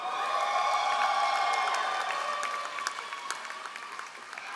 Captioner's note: all applauding